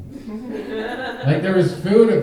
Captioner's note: audience laughing